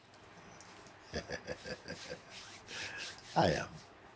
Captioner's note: laughs